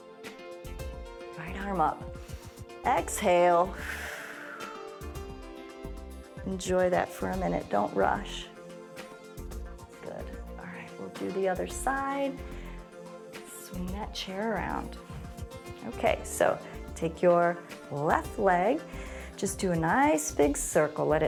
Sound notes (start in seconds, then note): 3.6 exhales; 3.7 inhales